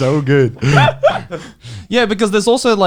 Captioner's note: laughs